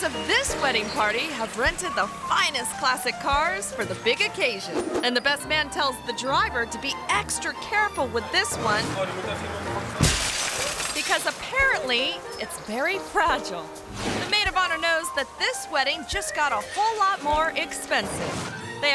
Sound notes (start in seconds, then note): 9.9 glass shattering; 10.1 car door thuds